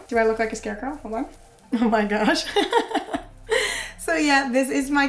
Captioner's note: laughs